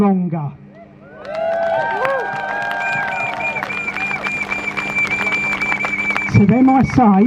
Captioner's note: crowd Cheers